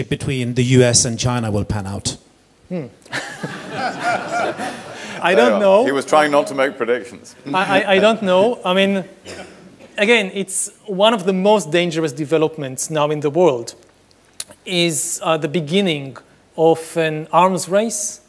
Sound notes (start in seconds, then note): 3.1 everyone laughing